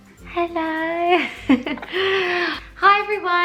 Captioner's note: laughs